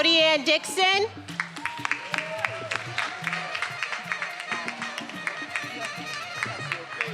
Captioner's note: attendees applauding and cheering